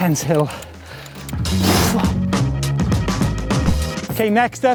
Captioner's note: exhales sharply